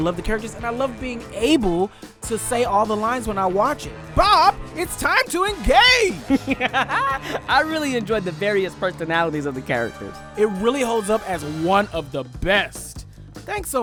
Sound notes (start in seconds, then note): 6.0 laughs